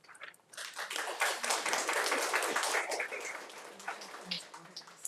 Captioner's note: audience applauding